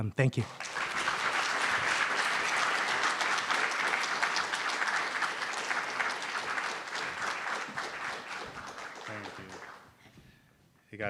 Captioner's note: applause